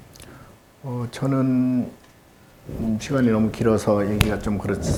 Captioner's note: speaking Korean